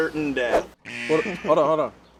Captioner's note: horn blaring